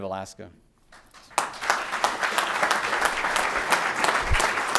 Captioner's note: applause